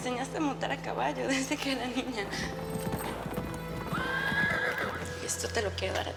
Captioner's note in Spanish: relincho